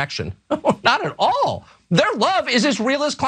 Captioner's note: laugh